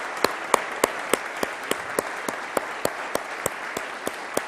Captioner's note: applause